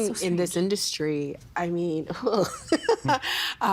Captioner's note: laughing